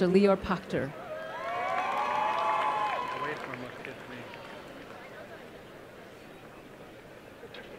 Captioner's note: applause